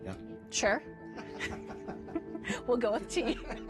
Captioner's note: laughing